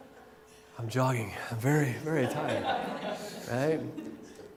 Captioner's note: laughter